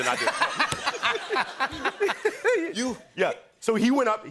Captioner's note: laughter